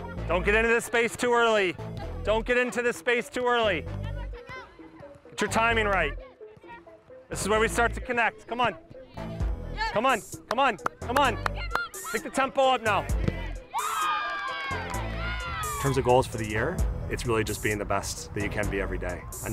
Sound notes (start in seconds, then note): 10.7 clapping; 13.7 team screaming